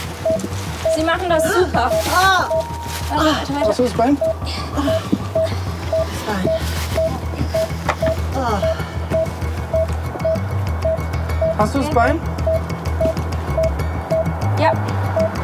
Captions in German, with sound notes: Sie machen das super. - Ah! Machst du das Bein? Das Bein ... (Die Patientin stöhnt.) Hast du das Bein? Ja.